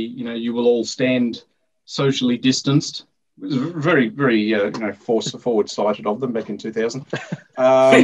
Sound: laughter

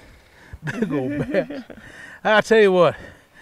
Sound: chuckling

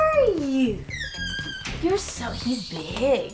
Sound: parrot chirps

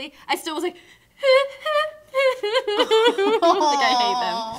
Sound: sobbing

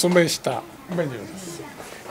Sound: speaks in foreign language

